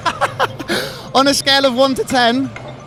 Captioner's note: laughing